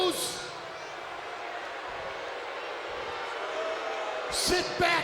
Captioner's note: crowd continues booing